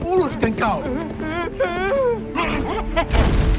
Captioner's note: Amato whimpers